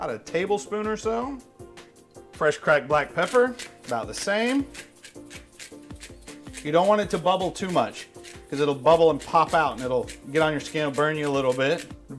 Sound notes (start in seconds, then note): 3.2 grinding; 4.6 mellow music